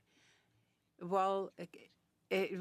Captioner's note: speaking French